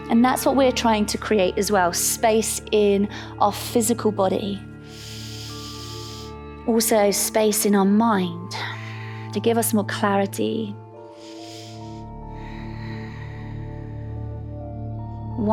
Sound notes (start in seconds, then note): 4.8 inhales; 11.1 inhales; 11.1 exhales